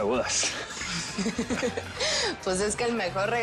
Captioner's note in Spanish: Risas